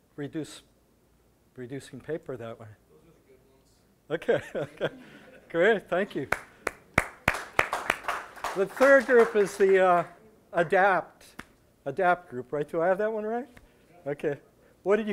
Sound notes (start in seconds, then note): 3.1 audience applause